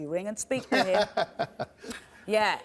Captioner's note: laughs